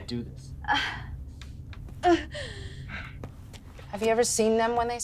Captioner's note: Yvonne exclaims